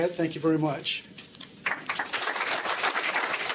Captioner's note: applause